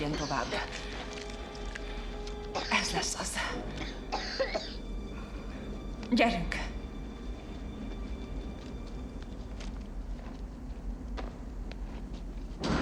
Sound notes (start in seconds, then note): 2.5 coughing